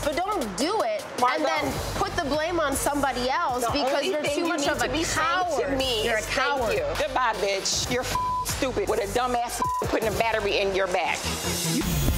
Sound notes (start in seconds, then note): 8.0 beep